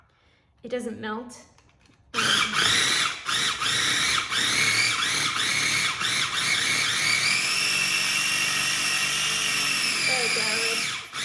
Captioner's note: food processor sound